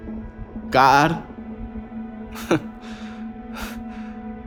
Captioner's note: chuckles